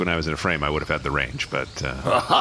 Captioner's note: laugh